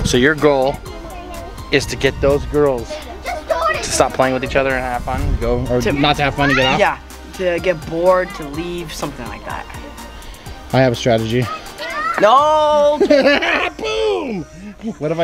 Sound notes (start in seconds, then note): 12.8 laughter